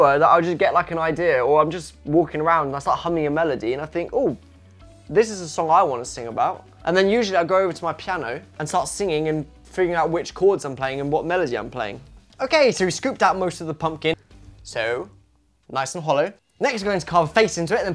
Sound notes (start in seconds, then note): none